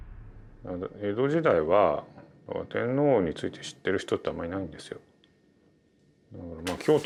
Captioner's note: speaking in Japanese